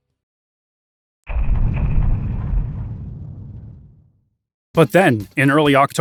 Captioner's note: thumping